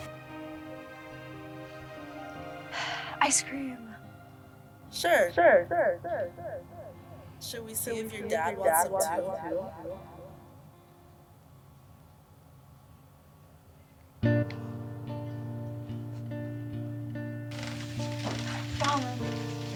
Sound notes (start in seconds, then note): 2.7 sighs; 5.5 speech echoing; 9.4 speech echoing; 14.3 light music